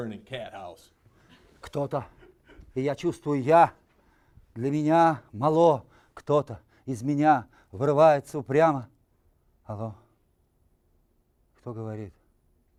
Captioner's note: reciting poem in Russian